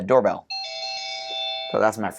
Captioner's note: chime